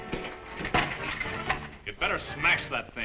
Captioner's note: metal clangs